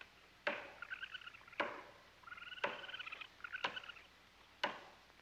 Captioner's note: raccoon squealing